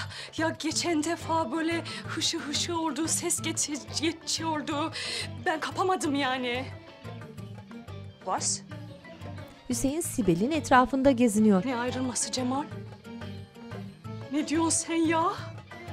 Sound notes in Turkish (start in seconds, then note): 7.8 Almanca konuşma